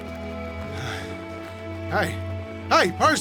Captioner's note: panting